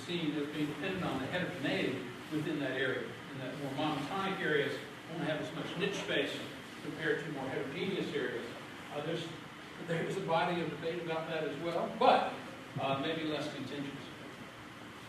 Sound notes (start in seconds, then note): none